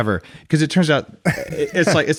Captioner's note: laughs